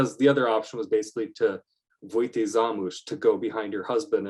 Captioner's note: non-english speech